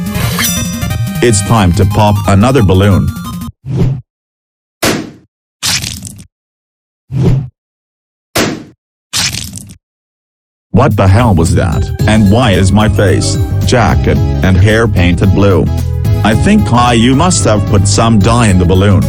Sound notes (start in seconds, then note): 3.6 whoosh; 5.6 splat; 5.6 balloon pops; 7.1 whoosh; 9.1 balloon pops; 9.1 splat